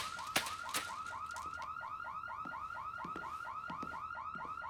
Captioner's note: alarm blaring